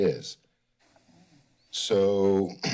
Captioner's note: pause